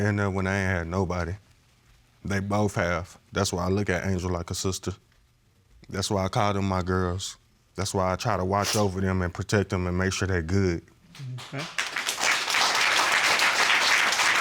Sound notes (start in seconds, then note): 11.1 applause